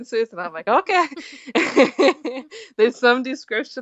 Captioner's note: laughs